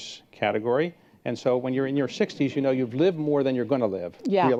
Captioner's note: laugh